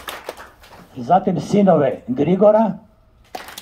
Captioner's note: applause…